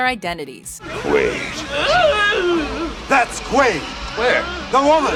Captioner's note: doug whimpering